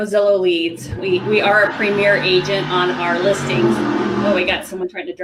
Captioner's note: engine roaring in the background